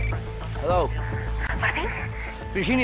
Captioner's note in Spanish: Suena un celular